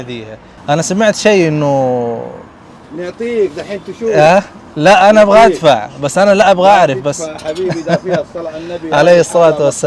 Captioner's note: talking in Arabic